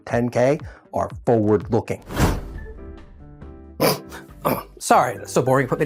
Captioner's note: snort